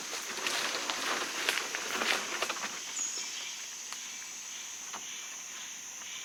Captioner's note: heavy crunching of dry leaves and sticks; birds and bugs chirping